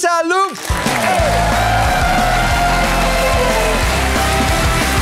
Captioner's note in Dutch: applaus